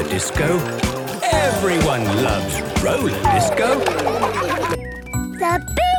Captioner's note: laughter